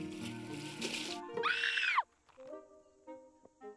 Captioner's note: screams